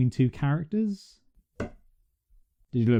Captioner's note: knock